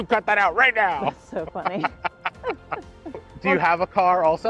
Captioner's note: laughs; chuckles